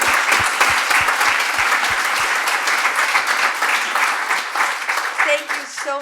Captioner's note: applause